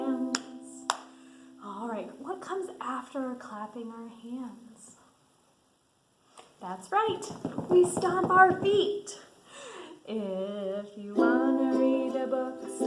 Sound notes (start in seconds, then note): 0.9 hand slapping; 7.0 feet stomping